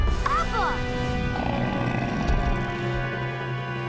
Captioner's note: grunting